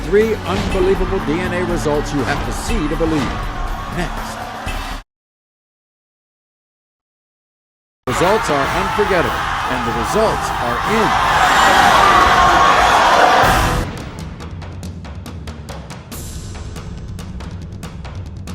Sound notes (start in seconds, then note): 11.5 audience cheering; 13.8 dramatic music